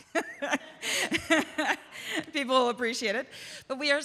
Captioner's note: laughs